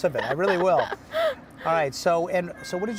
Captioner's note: laughing